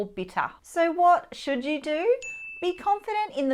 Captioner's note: bell dings